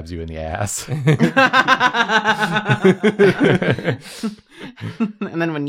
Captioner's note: laughter